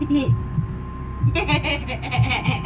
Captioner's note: laughing